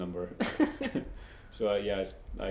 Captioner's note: both laugh